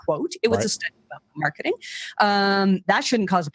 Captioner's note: mic cuts out